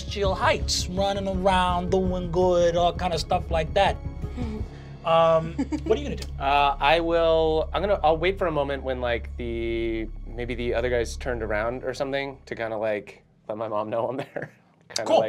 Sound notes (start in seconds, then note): 5.2 giggling; 14.0 chuckles